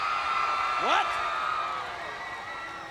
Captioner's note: applause